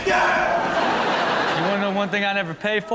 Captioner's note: audience laughs